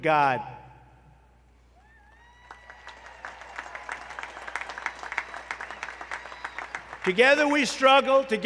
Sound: applause

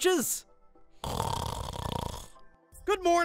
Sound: snores

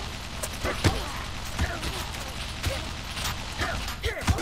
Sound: mech Gunshots

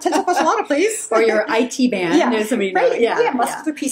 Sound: laughs

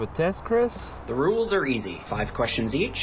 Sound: on phone

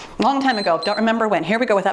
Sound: timer beeps

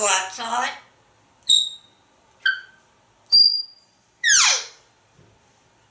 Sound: chirps and squeak sounds

